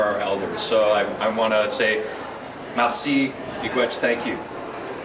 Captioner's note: speaking in a foreign language